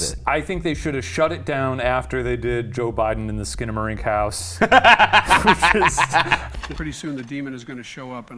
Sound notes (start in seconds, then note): 4.6 laughs